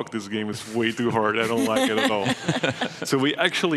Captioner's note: laughing